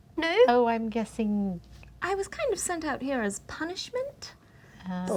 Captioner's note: none